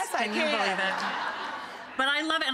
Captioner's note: audience laughing